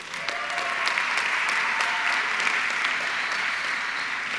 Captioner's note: audience clapping